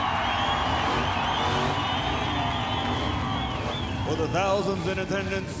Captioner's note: crowd cheering